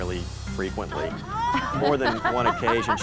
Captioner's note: all laughing